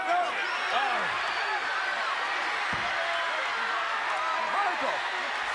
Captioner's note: applause